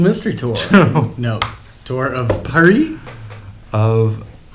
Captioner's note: laughs